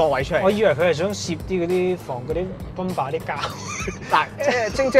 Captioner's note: laughs